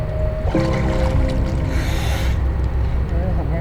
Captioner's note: water splashing